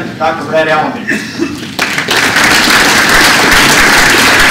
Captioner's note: laughter